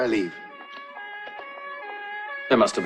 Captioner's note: sirens